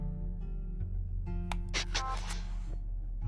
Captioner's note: click